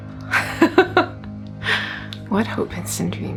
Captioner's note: woman laughs